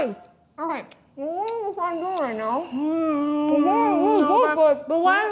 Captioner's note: muffled honey-mouth moans